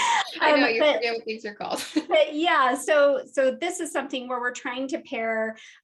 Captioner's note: laughing